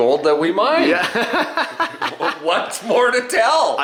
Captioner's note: laughs